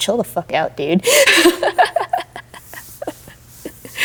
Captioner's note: laughing